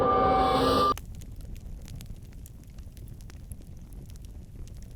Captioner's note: fire crackles